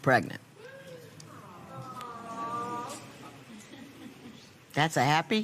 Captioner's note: spectators "aww"